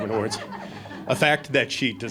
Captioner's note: audience laughing